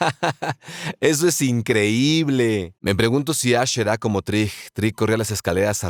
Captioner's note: laughs